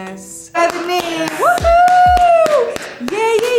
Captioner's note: Bella clapping